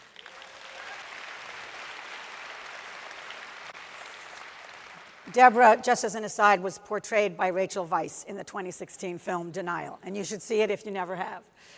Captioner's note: applause